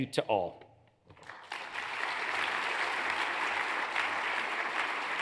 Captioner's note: audience applauds